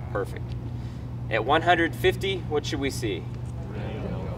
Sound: audience voices

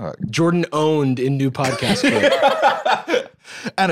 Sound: laughs

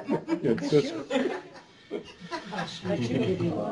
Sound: laughter

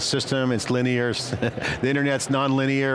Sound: laughs

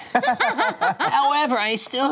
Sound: laughter

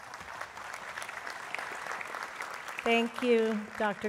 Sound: applause

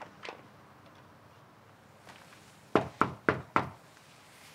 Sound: knocking on door

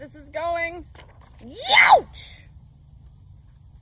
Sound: yeow!

